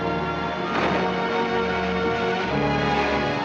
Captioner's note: logs sloshing